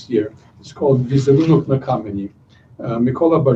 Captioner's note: non-english speech